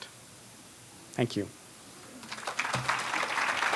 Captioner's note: applause